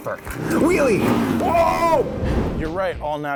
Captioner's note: motorcycle roaring